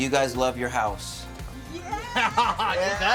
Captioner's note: laughs